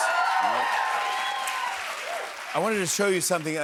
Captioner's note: cheers and applause